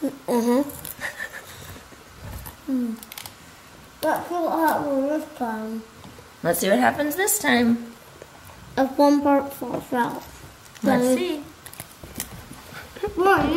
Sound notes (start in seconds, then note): 0.9 laughing